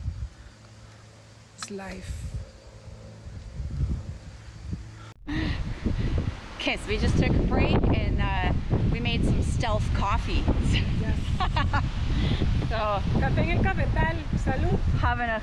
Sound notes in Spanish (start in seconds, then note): 6.6 Risas